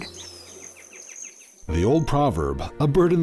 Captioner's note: sound of bird chirping